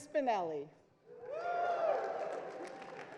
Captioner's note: crowd cheers; crowd applauds